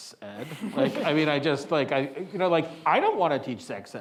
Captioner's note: attendees chuckling